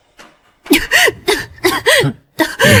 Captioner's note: cough cough